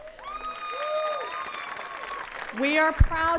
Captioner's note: attendees cheering and clapping